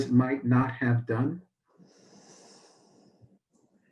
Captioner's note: exhales